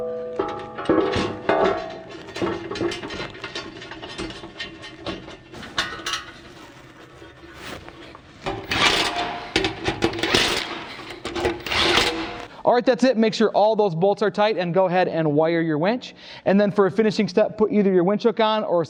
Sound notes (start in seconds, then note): 0.0 metal clanging; 8.6 drill socket whirring